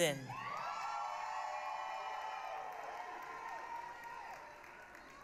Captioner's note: applause, cheering